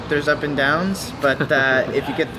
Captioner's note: chuckles